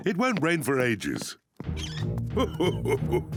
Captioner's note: laughs; oinks